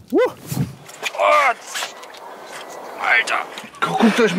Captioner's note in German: ächzend